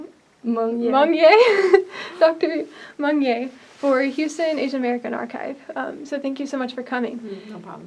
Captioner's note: laughs